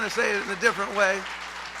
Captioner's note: applause; cheering